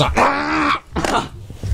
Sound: gag; muffled scream

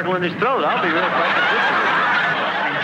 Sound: loud laughing

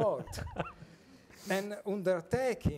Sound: group laughing

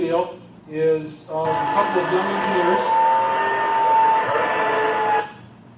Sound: vehicle screeching

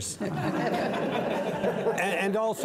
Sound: audience laughs

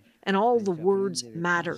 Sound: speaking alternate language

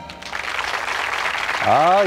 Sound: applause

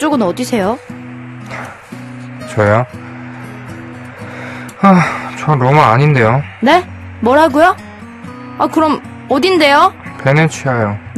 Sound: sighs; sighs

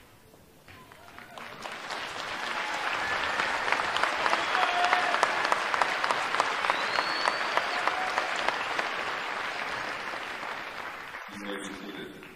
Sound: applause

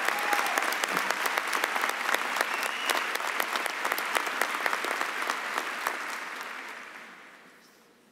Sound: cheering and applause

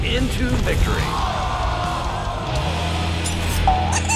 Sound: cheers

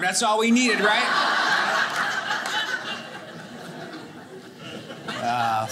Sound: audience laughing

